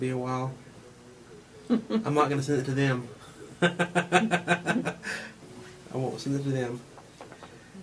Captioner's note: laughs